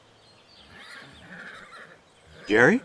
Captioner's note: horse whinnying